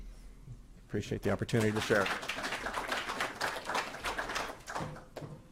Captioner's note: audience applauding